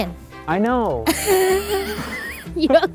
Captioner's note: woman laughs